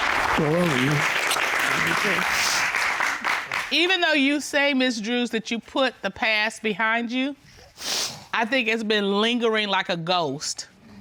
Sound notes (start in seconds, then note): 2.5 sniffles